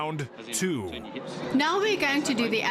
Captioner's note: narrating